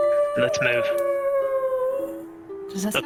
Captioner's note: oooooo